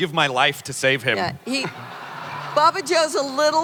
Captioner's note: audience laughter